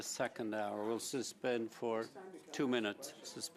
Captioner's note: speaking French